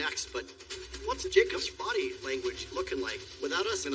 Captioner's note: clock tickiking